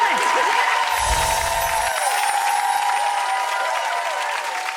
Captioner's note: audience applauding; chimes